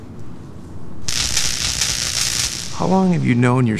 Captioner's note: electrical zapping